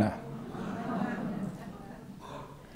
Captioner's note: gasps